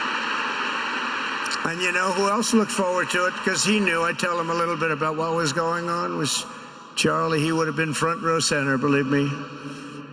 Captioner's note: applause